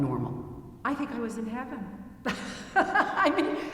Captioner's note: laughing